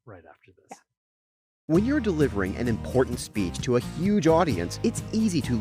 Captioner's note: voiceover